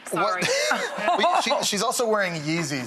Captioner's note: laughs